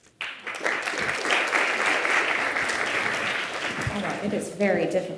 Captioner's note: audience applauding